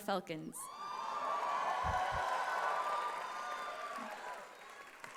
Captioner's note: cheering and applause